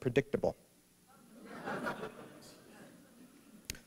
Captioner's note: laughter